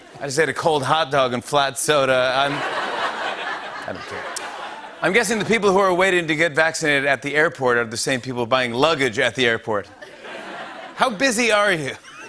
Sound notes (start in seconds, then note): 2.3 laughter